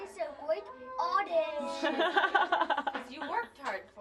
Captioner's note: laughter